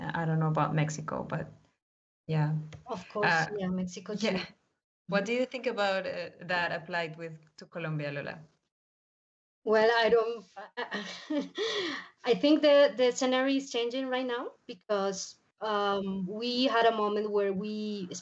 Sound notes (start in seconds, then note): 10.8 laughs